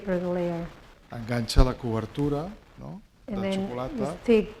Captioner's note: speaking spanish